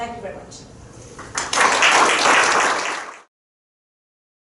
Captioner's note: crowd applauding